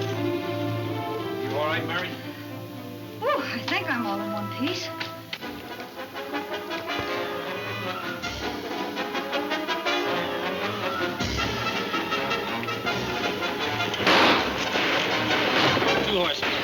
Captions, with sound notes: - You all right, Mary? - Woo, I think I'm all in one piece. (thrilling music) (guns firing) - Two more.